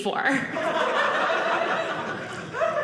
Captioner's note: audience laughing